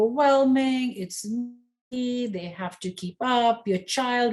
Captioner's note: faintly speaking